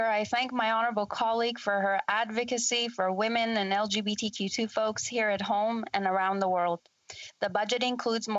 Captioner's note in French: voix de l'interprète